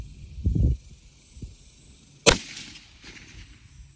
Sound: report of the rifle

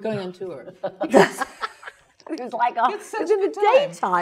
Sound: laugh

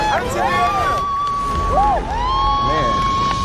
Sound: cheering

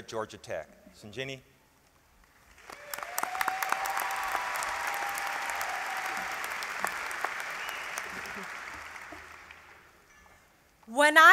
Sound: applause

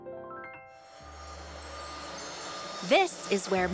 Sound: engines running

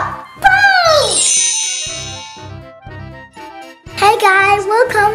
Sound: magic wand

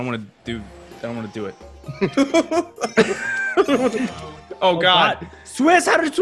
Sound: laugh

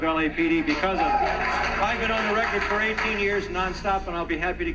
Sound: crowd cheering

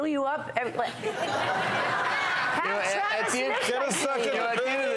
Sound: laughter

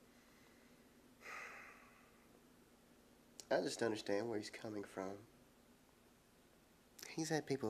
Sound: sighs

